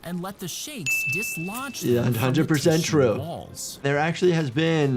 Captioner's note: bell dings